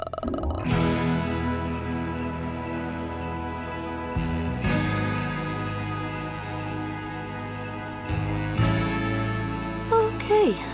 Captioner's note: groans; sleigh bells jingling